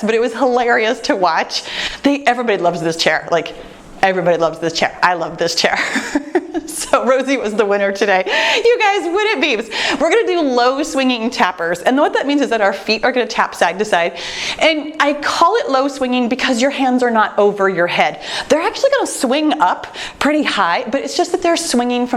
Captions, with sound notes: but was hilarious to watch. Everybody loves this chair. Like everybody loves this chair. I love this chair. (laughing) So Rosy was the winner today. You guys, when it beeps, we're going to do low swinging tappers. And what that means is that our feet are going to tap side to side and I call it low swinging because your hands are not over your head. They're actually going to swing up pretty high. But it's just that they're swinging